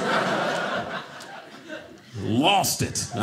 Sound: audience laughing

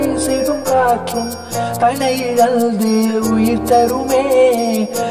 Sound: none

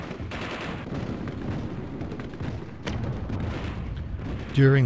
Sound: guns bang

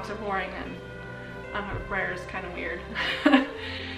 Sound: laughs

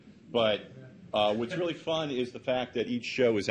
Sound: audience member laughs

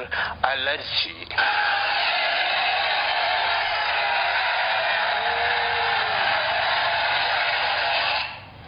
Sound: applause from laughing crowd

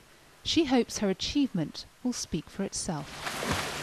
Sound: water splashing

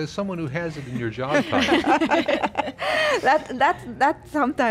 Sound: laughing

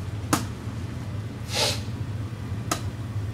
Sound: sniff of joy

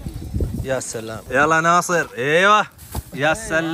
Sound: Arabic

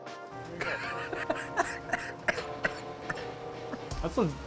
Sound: laughing

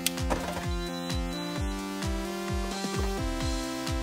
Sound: printer beeps

